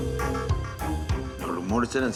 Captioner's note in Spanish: suena el teléfono en el otro lado